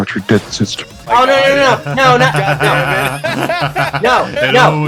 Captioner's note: laughs